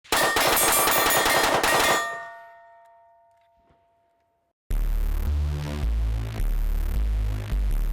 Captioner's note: gunfire pinging against steel